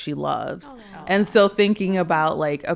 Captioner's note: speakers swooning